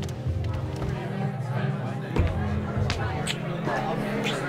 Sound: chatter

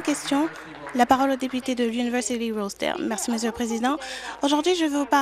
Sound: applause

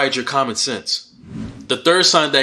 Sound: swooshing sound

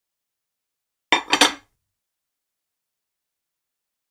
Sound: sound of plate

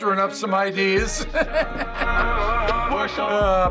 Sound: laughs

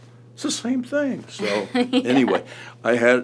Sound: laughs

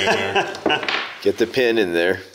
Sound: laughs

